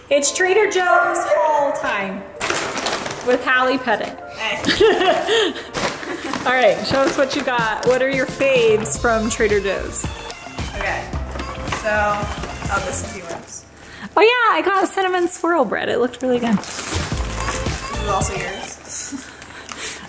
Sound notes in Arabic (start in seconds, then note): 4.6 يضحك